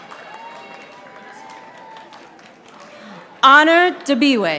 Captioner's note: audience applauding